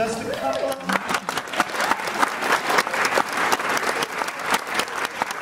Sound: audience applauding

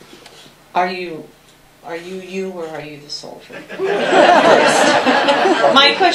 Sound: laughter

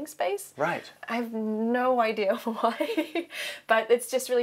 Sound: laughs

